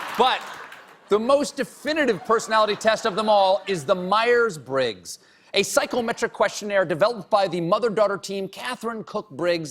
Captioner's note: laughter